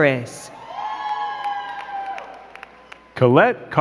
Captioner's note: crowd cheering and clapping